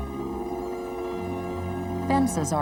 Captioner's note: compressor rumbling